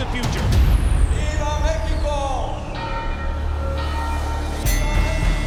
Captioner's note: bell ringing; ring bell dings